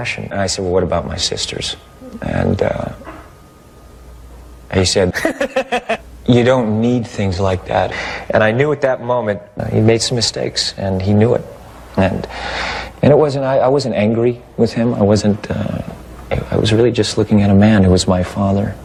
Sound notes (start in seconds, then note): 5.1 devilish laughter